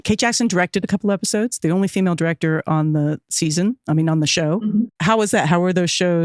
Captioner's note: none